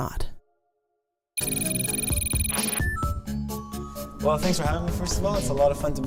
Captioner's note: electronic beeping